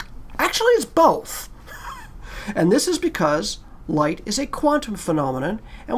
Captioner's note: laugh